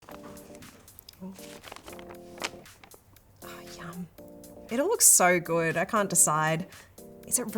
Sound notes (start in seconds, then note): 0.0 soft pop music; 3.8 whispers